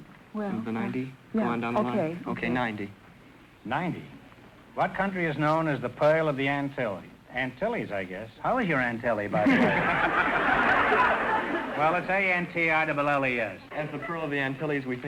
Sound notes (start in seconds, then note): 9.3 audience laughter